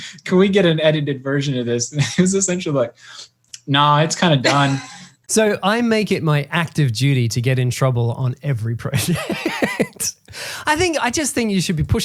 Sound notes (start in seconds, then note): 4.5 laughing; 9.0 laughing